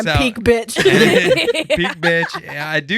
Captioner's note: laughing